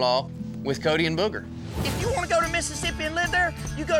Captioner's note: says angrily